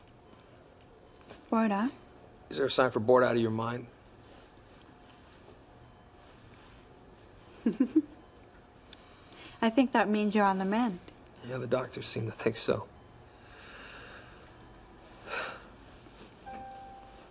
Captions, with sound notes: BORED, HUH? IS THERE A SIGN FOR BORED OUT OF YOUR MIND? [ Chuckle ] I THINK THAT MEANS YOU'RE ON THE MEND. YEAH, THE DOCTORS SEEM TO THINK SO.